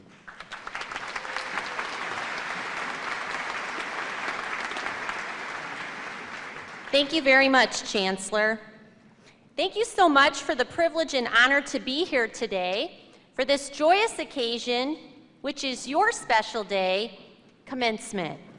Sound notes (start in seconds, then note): 0.0 applause